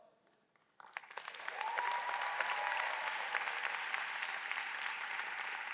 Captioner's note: audience applauding